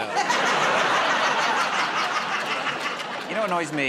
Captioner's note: laughter